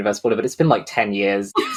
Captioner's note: laughs